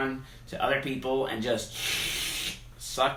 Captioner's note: slurping